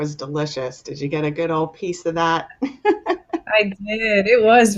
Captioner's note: laughs